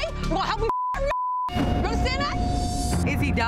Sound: beep

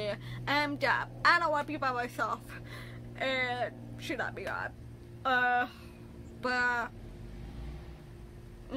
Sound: sighs

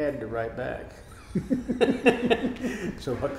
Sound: laughing

